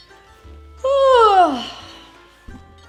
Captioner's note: yawns